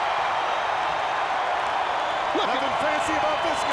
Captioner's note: crowd cheering